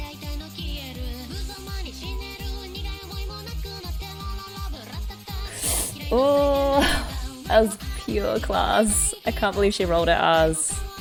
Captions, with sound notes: [sharp inhale] Ohh! That was pure class! I can't believe she rolled her r's.